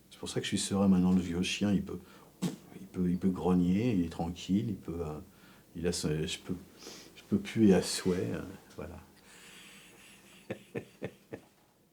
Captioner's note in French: rires